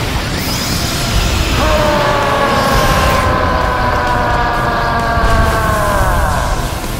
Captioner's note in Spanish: Gritos